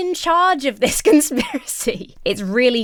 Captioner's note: laughs